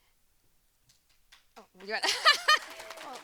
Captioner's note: audience applauding; laughs